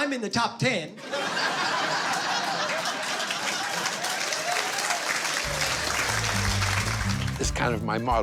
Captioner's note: laughter